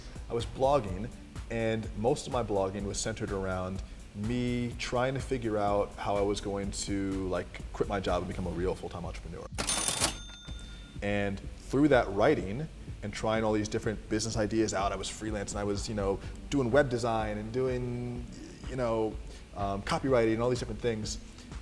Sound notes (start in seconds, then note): 9.6 cash register dinging